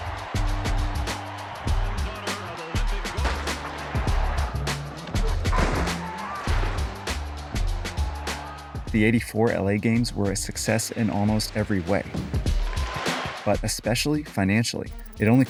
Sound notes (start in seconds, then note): 0.0 crowds cheering; 3.5 gun banging; 7.7 crowds cheering